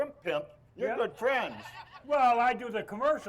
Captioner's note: crowd laughs